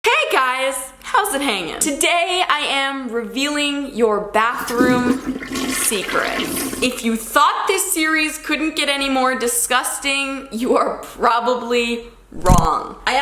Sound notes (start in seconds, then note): 4.4 toilet flushing